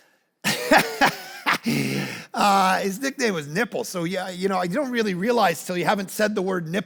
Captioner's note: laughs